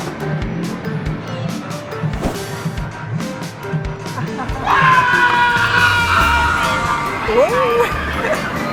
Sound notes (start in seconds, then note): 4.5 screams